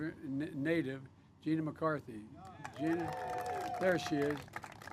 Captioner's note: applause